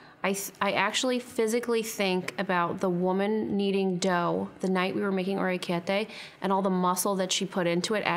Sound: none

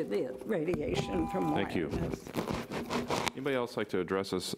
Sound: buzzer rings

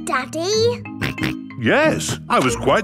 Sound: snorts

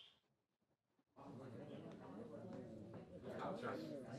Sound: funeral chatter

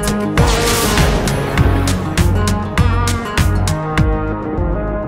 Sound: lightning crashes

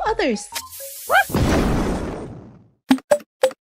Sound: bomby explodes

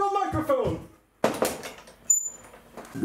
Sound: microphone SLAM; microphone Squeek

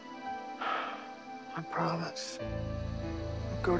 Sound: sighs

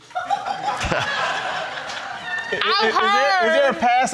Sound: crowd laughing

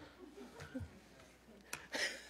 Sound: laughter

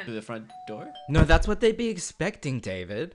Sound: doorbell rings

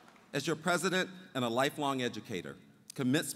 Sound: applause

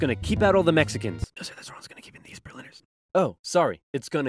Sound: whisper

